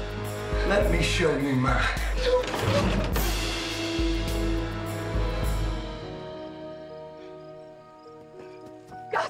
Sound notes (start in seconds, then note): 2.0 sobs; 7.4 taking deep breaths